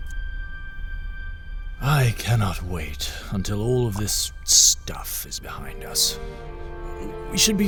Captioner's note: sighing